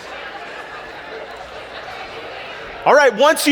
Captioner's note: audience laughs